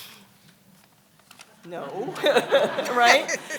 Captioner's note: laughs